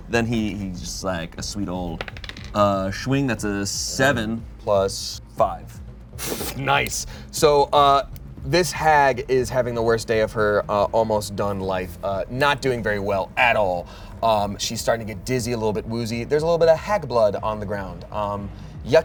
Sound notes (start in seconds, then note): 6.5 exclaims